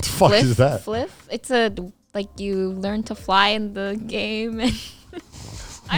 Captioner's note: laughs